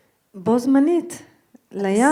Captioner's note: speaking in foreign language